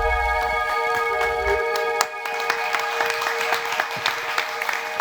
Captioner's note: audience clapping